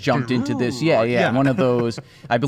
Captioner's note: does a voice